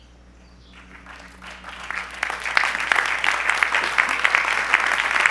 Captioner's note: audience applause